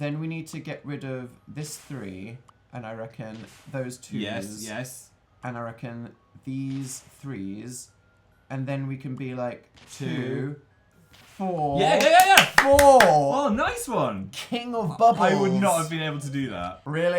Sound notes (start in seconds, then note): 11.8 claps